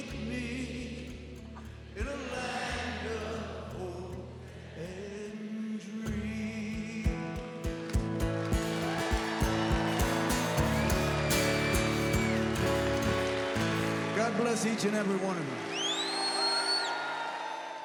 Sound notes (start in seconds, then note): 10.2 crowd cheering; 13.2 song ends